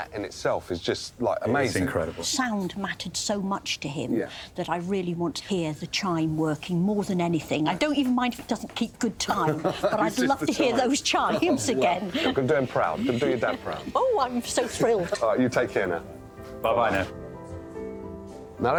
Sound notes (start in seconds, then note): 9.2 laughs